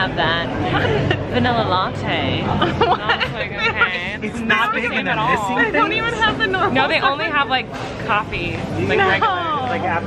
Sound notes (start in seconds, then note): 2.6 laughing